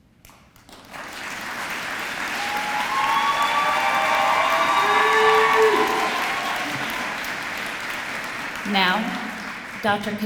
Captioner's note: applause